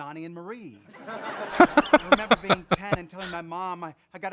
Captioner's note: laughing